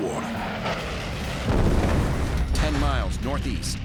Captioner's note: explosion